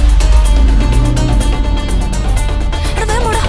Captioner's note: struggling to breath